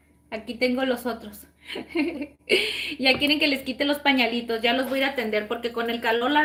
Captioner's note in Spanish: risas